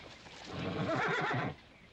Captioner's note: horse neighing